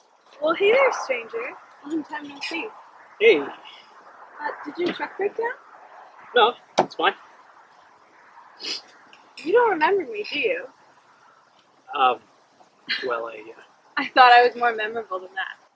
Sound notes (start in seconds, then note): 8.6 Landen sniffs; 14.0 laugh sighs